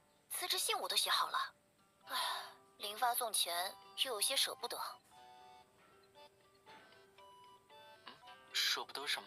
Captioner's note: sigh